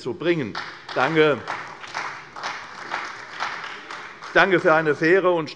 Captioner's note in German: Beifall bei Abgeordneten der CDU